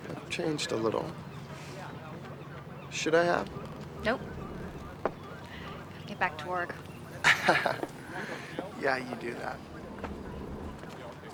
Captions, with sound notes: See, I've-I've changed a little. Should I have? Nope. I gotta get back to work. (chuckles) Yeah, you do that.